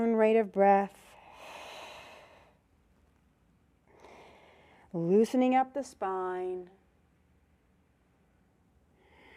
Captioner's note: breath sound